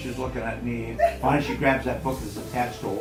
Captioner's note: laughs